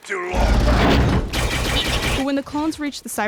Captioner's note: laser fire